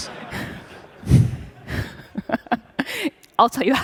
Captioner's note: laughter